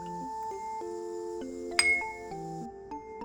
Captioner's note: ding